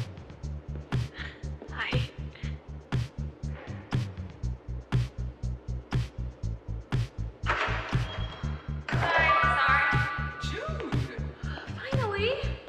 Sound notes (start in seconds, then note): 3.1 upbeat music; 7.4 door opens